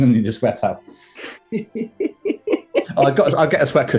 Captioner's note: giggling